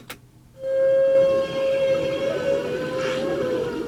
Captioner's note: whale sounds